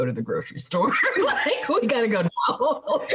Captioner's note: laughing